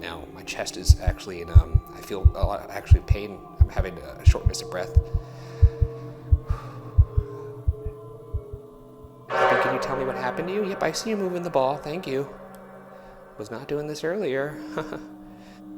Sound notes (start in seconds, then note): 4.8 breathing heavily; 7.8 tense music